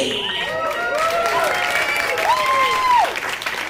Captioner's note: cheers and applause